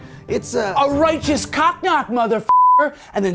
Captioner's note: beep